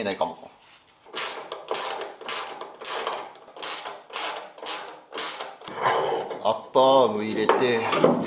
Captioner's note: working sound